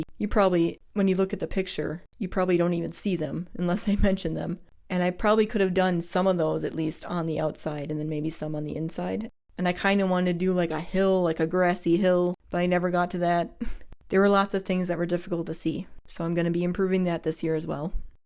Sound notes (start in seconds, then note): none